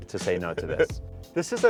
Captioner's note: laughs